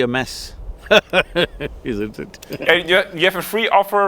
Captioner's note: both laugh